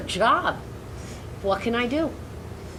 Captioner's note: none